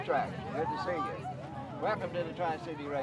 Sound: excited conversation

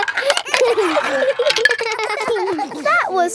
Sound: all giggling

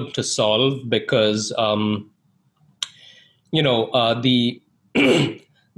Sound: clears throat

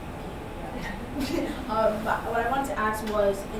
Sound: chuckling

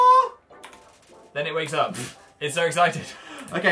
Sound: snorts

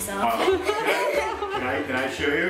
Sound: laughter

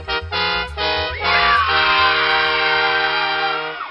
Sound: trumpets; children cheering

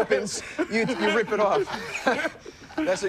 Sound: laughter

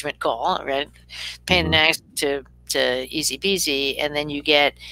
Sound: speaking faintly

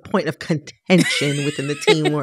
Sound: laughter

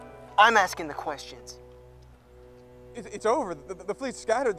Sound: none

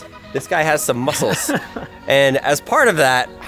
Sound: laughs

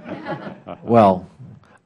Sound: laughter

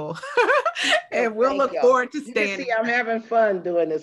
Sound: laughing

